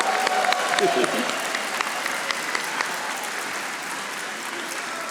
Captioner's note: audience applauding